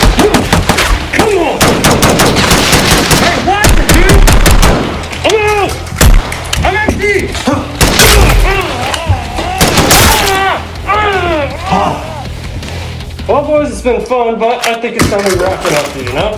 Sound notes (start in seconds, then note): 1.1 exclaims; 7.8 gunfire; 7.9 armor plate shatters; 8.0 exclaims; 8.4 groaning in pain; 9.6 gunfire; 10.1 screaming in pain; 10.1 blood splatters; 11.9 exclaims